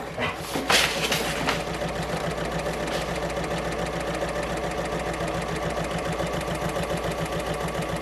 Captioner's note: sewing Machine Sounds